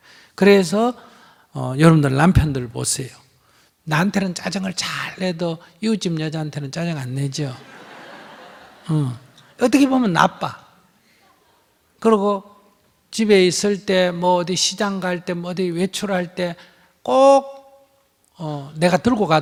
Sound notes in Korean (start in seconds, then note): 7.6 청중 웃음